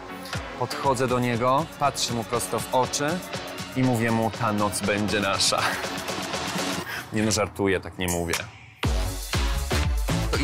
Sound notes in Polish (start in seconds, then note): 5.8 śmiech